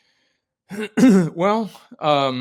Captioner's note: clearing throat